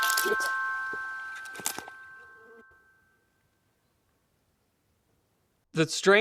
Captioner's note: ticking